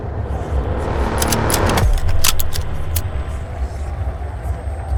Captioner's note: gun clicking